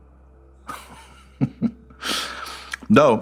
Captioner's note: chuckling